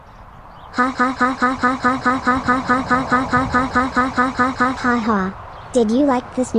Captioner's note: laughing